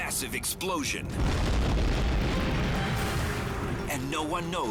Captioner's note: explosion booming